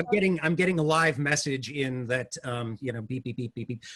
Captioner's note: beeps